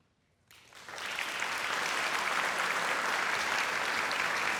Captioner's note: audience applauding